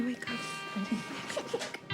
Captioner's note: girl laughs